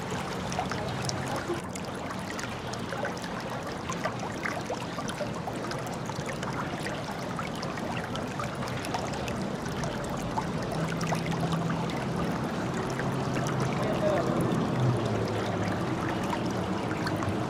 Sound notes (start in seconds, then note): 0.6 water sounds